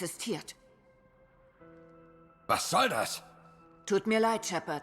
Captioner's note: none